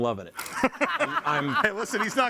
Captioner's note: group laughs